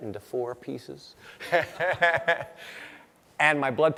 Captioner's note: laughing